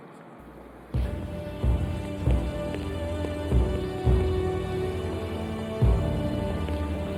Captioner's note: dramatic music; feet clacking